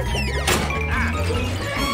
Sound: laughing

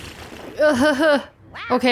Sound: chuckles

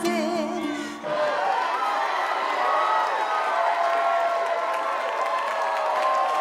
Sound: crowd clapping and cheering

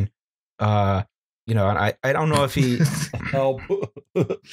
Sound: laughter

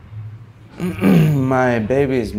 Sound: clearing throat

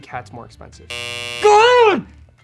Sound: buzzer buzzes

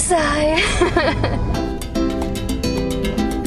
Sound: laughing; Latin music

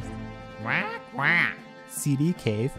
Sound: commanding squawks

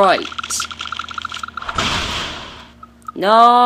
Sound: explosion

